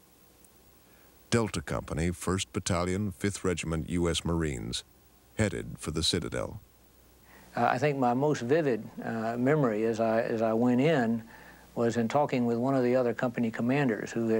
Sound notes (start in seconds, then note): none